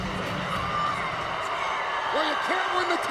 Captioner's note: crowd cheering